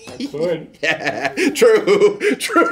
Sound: laughing

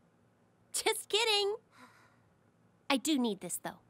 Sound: sighs in relief

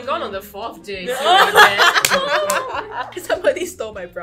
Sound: laughs hysterically

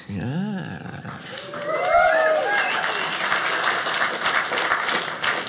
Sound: audience cheers

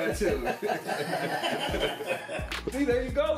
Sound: men laugh

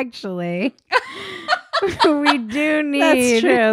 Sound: laughing

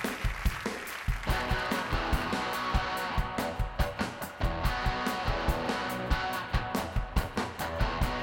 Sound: cheers and applause

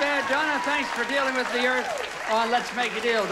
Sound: audience applauding

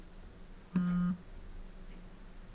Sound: phone buzzes

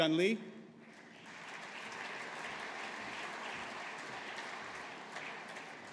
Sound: audience applauding

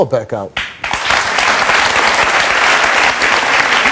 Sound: audience applauds

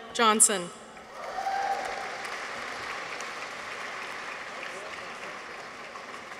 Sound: audience applauds; people cheer

